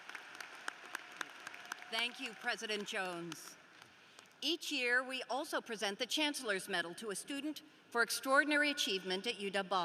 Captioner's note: applause